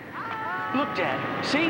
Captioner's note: group yelling